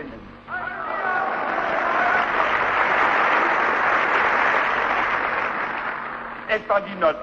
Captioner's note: screams: „Nobody!“